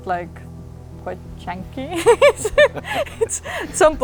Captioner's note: laughs